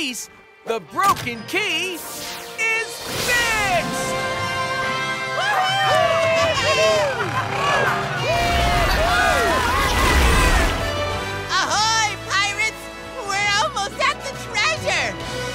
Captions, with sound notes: the broken key is fixed! [all cheering] Ahoy, pirates! We're almost at the treasure!